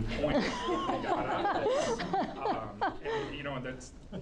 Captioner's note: group laughing